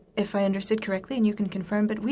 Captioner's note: speaking in french